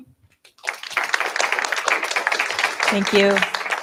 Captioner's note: applause